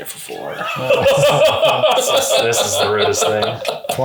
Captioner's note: laughs